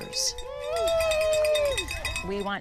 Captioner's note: crowd cheering